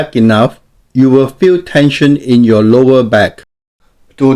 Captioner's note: voiceover